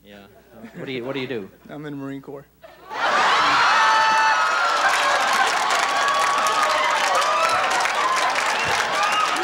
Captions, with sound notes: -Yeah, what do you do? -I'm in the Marine Corps. (guffaws and applause)